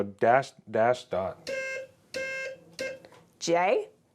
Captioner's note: beeping